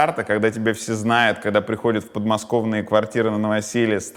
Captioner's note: none